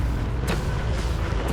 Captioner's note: motor whirring